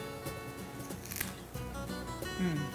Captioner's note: strawberry crunches